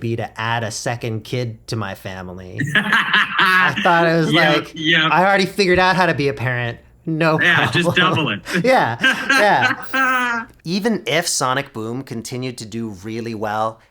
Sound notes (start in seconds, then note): 2.6 laughing; 9.8 laughing